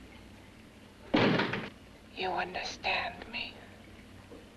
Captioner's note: door bangs; liquids bubbling